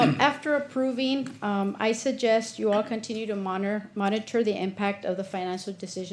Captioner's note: clears throat